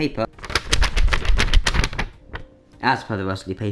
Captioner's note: rustle